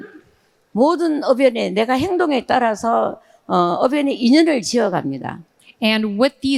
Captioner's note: speaking in foreign language